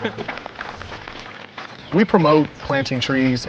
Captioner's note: laughs; footsteps